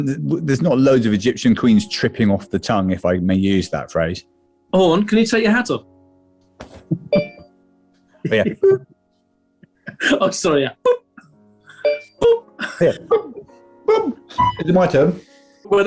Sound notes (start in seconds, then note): 7.1 iPHONE ALERT TONE; 11.8 iPHONE ALERT TONE